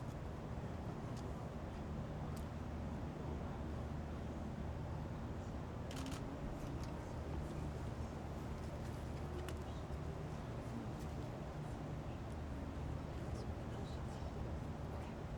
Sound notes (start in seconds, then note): 6.3 camera clicks